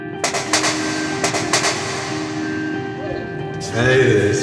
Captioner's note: rapping on door